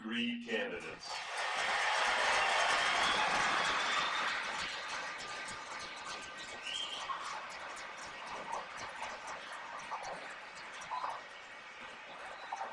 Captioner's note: cheers and applause